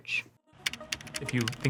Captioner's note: letters typing